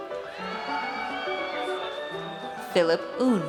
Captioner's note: audience cheers